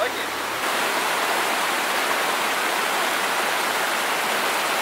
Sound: rushing water

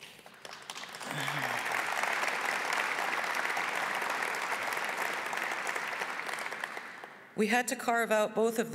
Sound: applause

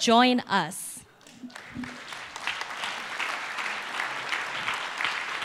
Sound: applause

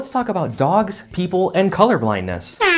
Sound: super loud air horn!

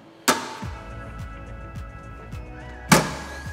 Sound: heat press clicks; upbeat music; heat press clicks

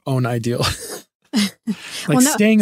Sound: laughing

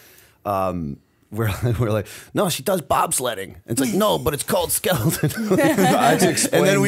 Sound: chuckle

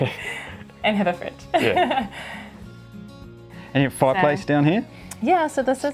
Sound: laughs

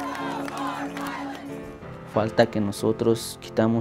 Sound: applause; crowd Chanting

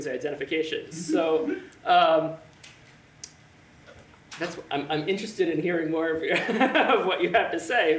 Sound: laughs

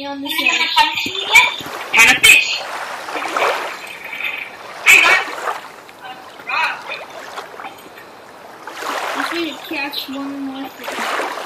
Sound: splashing

